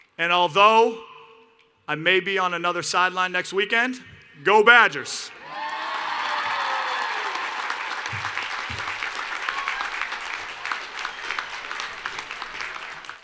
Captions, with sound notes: And although I may be on another sideline next weekend, go Badgers! [ Cheers and Applause ]